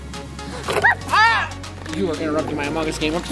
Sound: screams

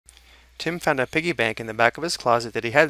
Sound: voiceover

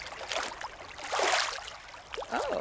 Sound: splashing

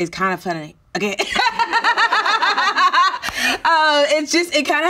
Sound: laughing

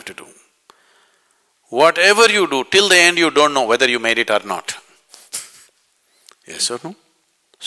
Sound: laughs

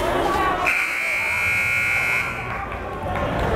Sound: buzzer

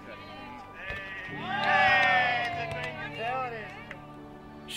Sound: cheering and clapping

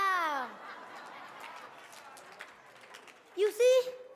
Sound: audience laughing

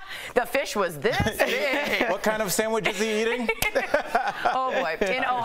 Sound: laughter

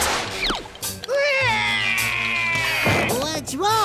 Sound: crying

